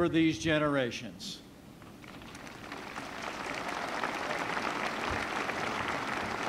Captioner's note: applause